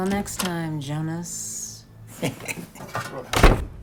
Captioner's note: chuckles